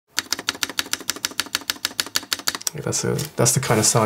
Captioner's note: tapping noise